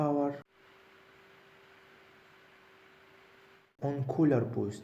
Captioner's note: fan Noise on Half Power